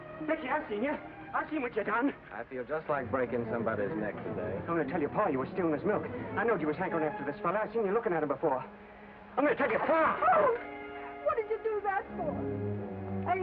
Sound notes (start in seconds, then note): 9.9 Becky cries out